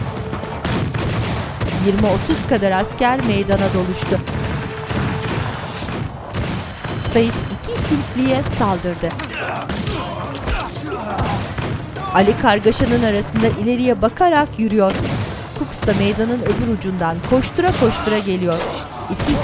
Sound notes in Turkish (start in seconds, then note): 2.6 Silah sesleri; 14.6 Silah sesleri